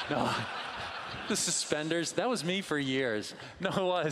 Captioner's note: laughing